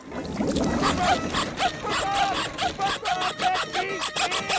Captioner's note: squeaking